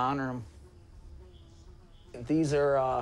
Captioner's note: fly buzzes